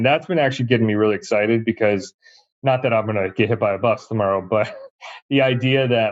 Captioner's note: laughs